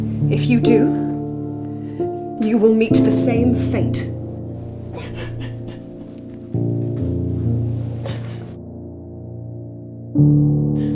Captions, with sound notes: If you do, you will meet the same fate. (Narcissa crying) (melancholic music)